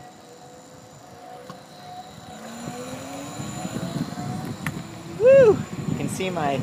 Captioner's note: motor whirring